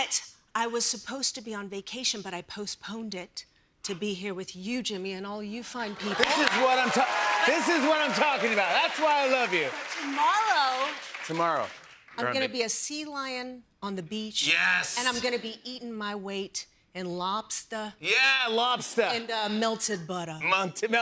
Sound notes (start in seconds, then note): 6.0 cheers and applause